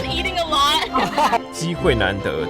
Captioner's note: laughs in contentness